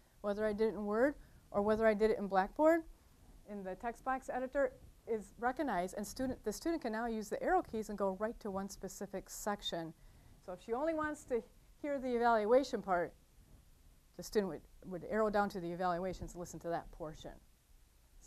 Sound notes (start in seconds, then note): none